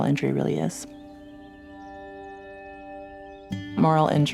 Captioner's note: birds chirping